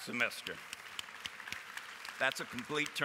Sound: applause

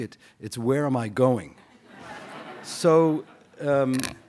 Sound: laughter

